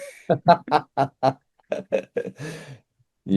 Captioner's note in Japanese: 笑い